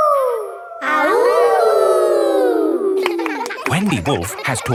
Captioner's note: howling; kids howling